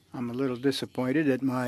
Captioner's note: speaking French